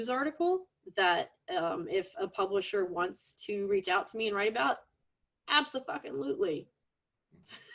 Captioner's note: laughs